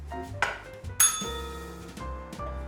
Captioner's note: bell rings